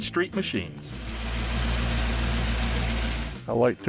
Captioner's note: engine rumbling